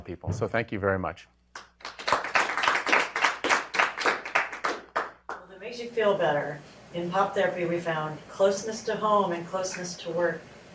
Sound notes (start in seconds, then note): 1.5 applause